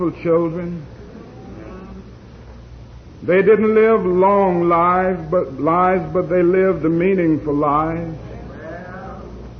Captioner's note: moans